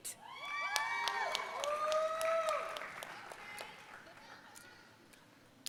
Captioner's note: audience cheering and applauding